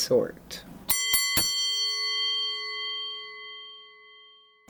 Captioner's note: bell ringing